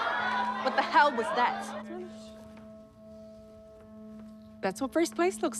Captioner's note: chatter stops abruptly